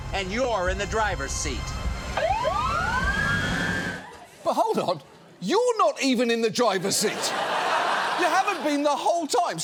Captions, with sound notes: And you're in the driver's seat. (SIRENS BLARING) But hold on, you're not even in the driver's seat. (STUDIO AUDIENCE LAUGHS) You haven't been the whole time.